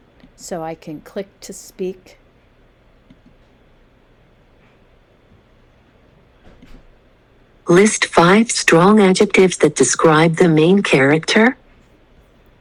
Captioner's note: computer speaking:List five strong adjectives that describe the main character